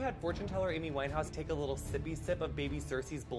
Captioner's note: whispering